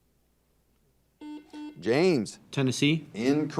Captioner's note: buzzer dings